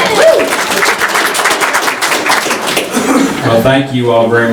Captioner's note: audience members whoop and applaud